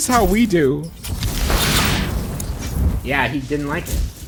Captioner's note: magic flourishes